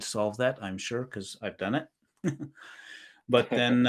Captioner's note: chuckles